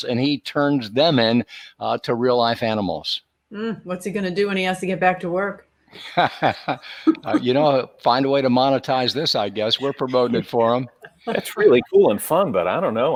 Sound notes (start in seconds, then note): 6.0 laughing